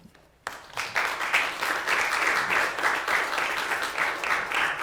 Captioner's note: clapping